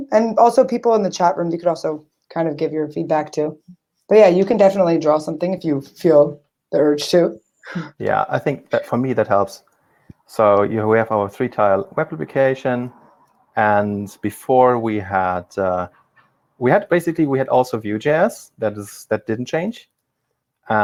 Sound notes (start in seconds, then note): 8.2 chuckles